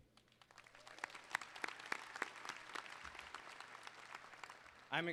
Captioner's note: applause